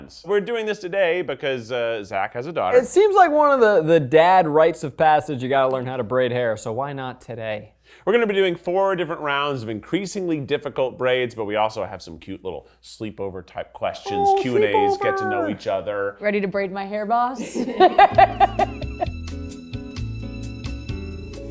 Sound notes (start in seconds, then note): 17.4 laughs; 18.0 gentle music